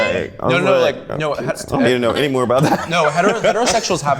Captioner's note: overlapping chatter